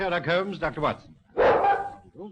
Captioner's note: dog barking